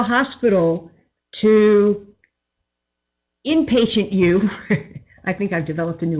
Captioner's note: chuckles